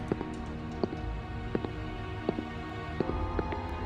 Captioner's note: footsteps